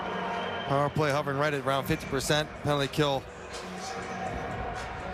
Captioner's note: sports commentary